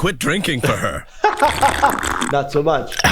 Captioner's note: laughs; Archer slurps drink